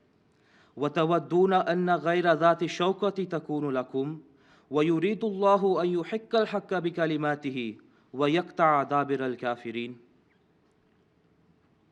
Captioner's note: Arabic